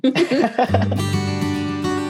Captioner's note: group laughs; lighthearted music